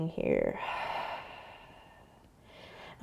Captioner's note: exhaling